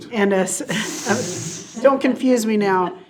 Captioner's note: board chuckling